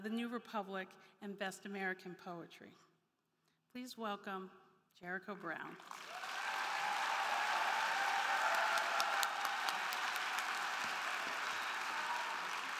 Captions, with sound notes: the New Republic, and Best American poetry. Please welcome Jericho Brown. (crowd clapping) (crowd cheering)